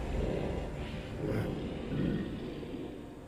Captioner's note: growling